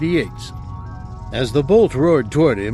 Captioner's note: volley from laser rifle